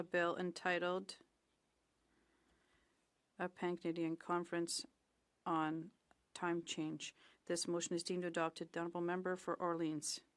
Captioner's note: speaking French